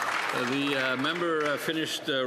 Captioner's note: applause